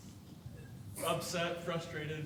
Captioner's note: frustrated